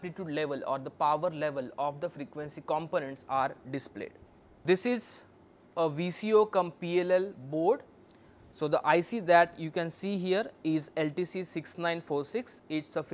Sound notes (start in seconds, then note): 1.7 phase noise